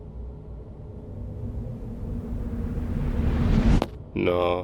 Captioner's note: tense whirring